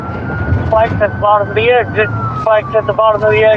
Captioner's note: on ran radio